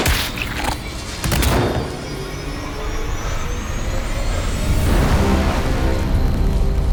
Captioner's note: dramatic music; rifle blasts